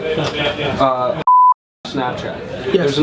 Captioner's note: beeps